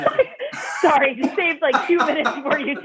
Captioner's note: laughter; laughter